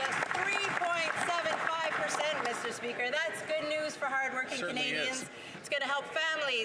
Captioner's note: some Applause